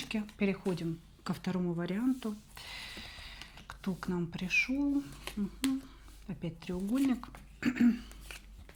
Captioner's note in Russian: откашливается